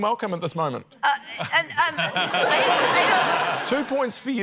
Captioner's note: stammers; laughter